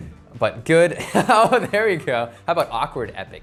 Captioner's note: laughs